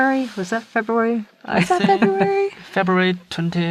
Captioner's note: chuckles